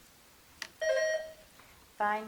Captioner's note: bell dinging